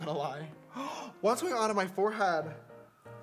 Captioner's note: gasps